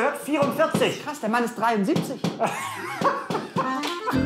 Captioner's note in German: lacht